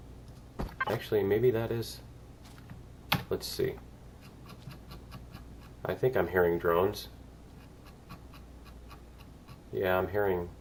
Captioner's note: mouse wheel scrolling